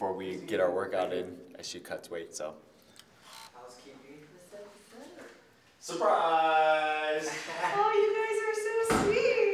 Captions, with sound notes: before we get our workout in as she cuts weight. (people chattering) - Surprise. - Oh, you guys are so sweet.